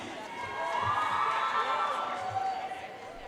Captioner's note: audience cheering and applauding